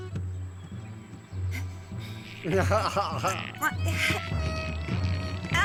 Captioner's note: laughing